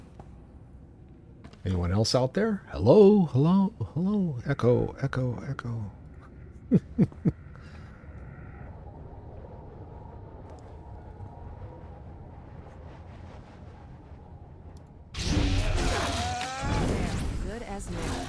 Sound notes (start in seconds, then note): 6.2 laughs